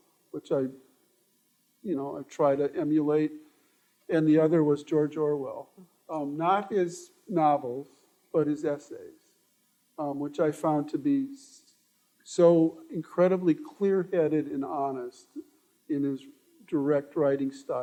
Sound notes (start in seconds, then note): none